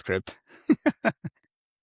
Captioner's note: laugh